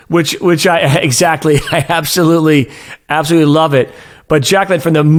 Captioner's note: chuckles